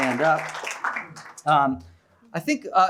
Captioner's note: applause